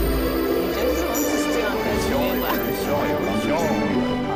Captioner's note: people chattering